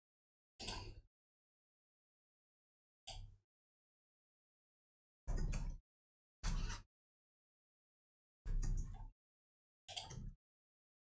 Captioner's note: silence